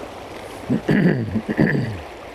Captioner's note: cough